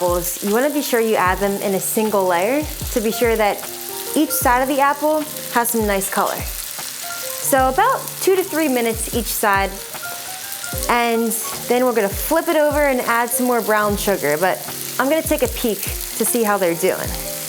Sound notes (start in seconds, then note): 6.3 butter sizzling; 17.3 butter sizzling